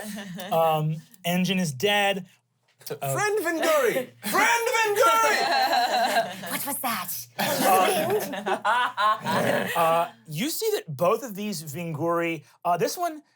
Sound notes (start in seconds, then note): 9.4 laughs